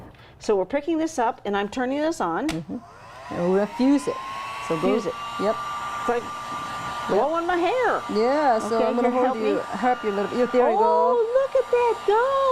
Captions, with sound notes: - So, we're picking this up and I'm turning this on. (heat gun blowing) - And we'll fuse it. So, go, yup. - So, fuse it. - It's like blowing my hair. - Yeah, so I'm gonna help you a little. - Okay, here to help me? - Look, here we go. - Oh, look at that go.